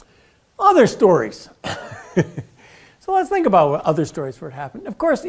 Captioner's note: laugh